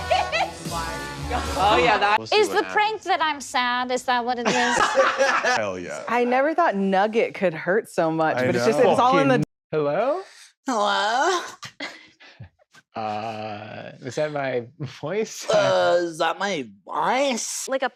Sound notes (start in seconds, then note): 4.5 chuckles